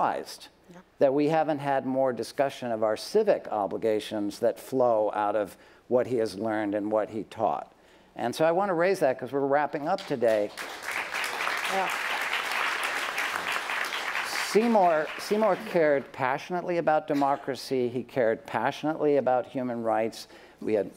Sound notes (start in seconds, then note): 11.5 applause